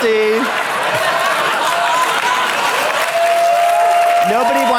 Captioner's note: audience laughs and applauds; audience laughs